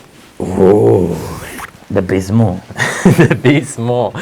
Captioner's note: laughing